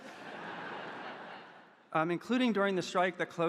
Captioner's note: audience laughing